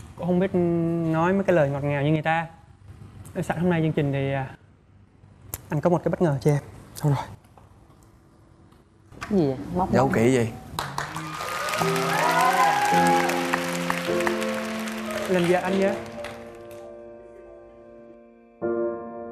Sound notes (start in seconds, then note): 10.7 applause; 18.5 soft piano plays